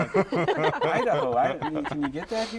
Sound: laughter

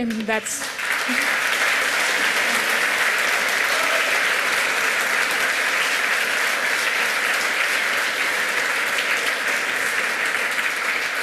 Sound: applause

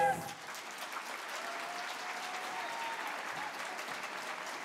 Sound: audience applauds

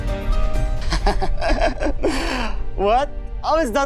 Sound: laughs

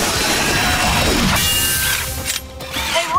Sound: thudding

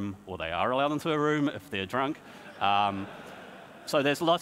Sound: audience laughs

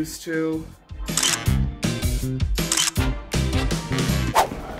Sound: camera snaps

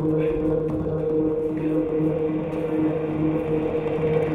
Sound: dancers thudding

